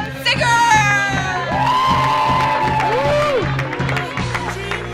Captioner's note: audience cheering; audience clapping